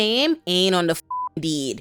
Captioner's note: beep